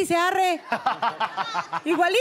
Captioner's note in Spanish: Raúl ríe